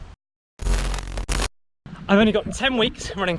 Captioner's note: TV crackling